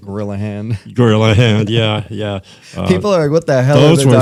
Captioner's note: laughter